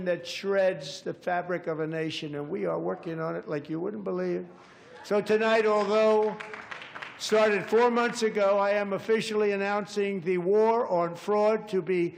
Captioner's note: applause